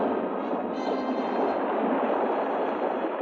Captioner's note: walls rumbling